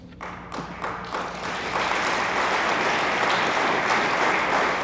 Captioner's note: attendees applaud